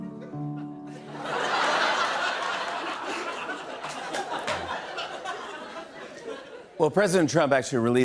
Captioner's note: laughter